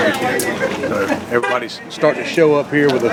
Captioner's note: background talking; horn tooting